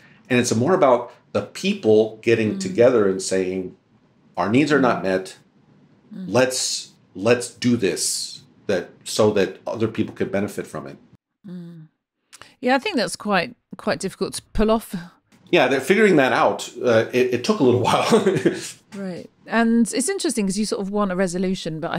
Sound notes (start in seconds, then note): 17.7 laughs